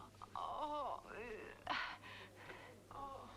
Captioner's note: Hundra groans